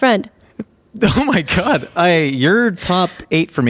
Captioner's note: laughing